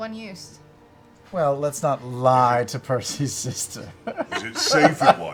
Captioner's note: laughs